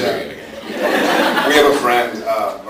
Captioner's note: laughs